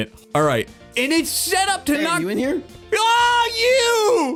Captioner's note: voice coming from jukebox